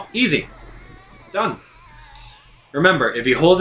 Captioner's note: ghost wailing